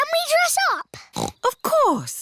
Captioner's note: snorts